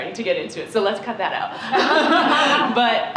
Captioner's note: laughter